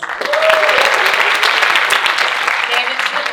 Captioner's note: audience cheering and applauding